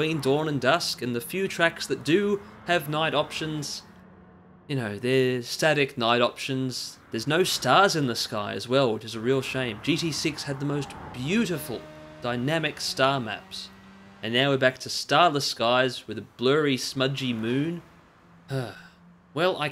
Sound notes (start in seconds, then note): 18.5 sigh